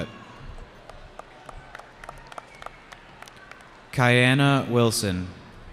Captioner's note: cheering